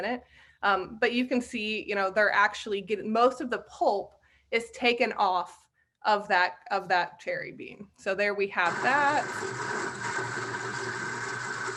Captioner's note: grinding noise